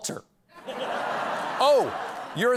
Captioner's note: laughter